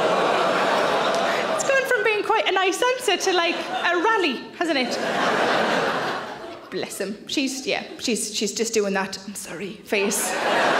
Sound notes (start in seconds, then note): 5.8 audience laughs; 10.0 audience laughs